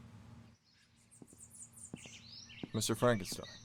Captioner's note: approaching footsteps